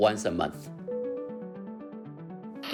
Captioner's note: soundbite of airplane announcement tone